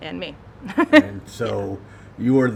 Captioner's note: laughing